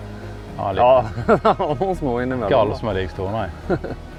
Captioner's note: giggles